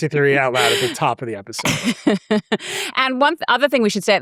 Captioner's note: chuckles